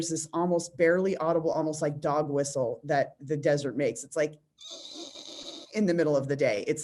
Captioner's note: whistle squeal